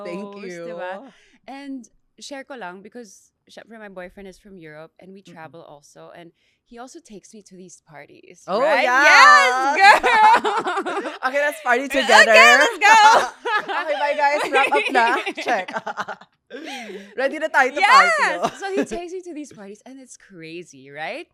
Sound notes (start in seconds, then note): 10.5 laughs; 15.9 laughs